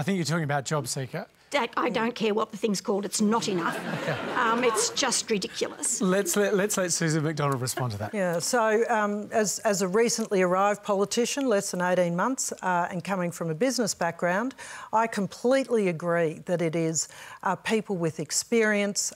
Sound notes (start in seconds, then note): 3.4 laughter